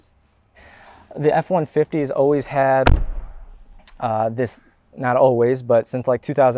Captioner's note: closes door